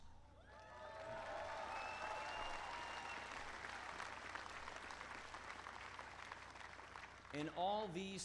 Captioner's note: applause